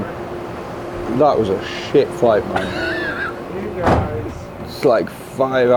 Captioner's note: laughs